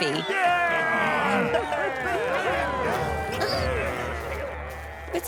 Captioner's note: grumbling